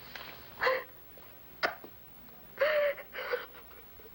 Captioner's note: crying